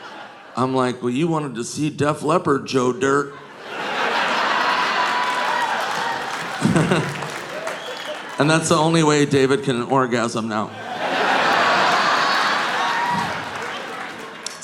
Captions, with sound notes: I'm like, "Well you wanted to see Def Leppard, Joe Dirt." (audience laughing) (audience applauding) (Nick chuckles) And that's the only way David can orgasm now. (audience laughing)